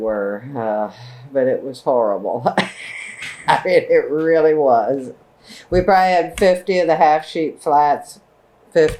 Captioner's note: laughs